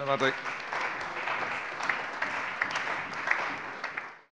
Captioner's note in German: Allgemeiner Beifall